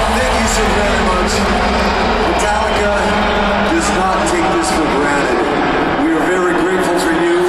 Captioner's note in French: Applaudissements